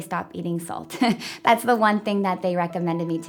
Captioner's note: laughing